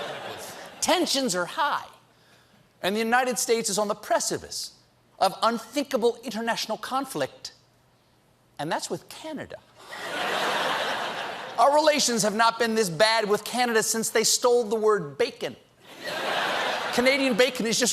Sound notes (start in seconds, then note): 9.8 laughter